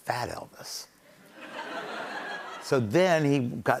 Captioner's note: laughter